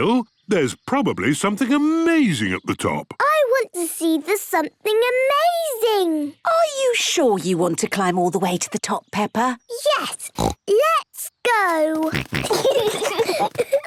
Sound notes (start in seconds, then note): 10.2 snorts; 11.9 snorting, giggling